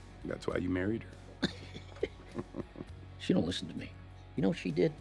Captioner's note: laughs